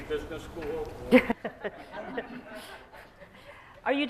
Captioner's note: laughter